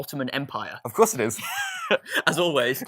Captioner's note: laughs